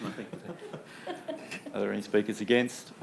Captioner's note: chucklings